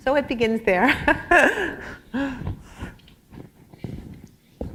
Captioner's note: laughter